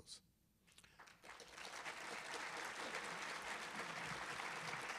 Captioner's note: audience applauding